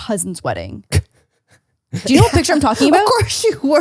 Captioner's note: laughing